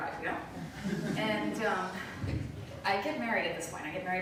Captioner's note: light laughter